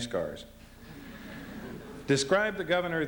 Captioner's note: laughter